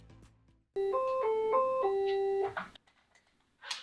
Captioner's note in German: Telefonklingeln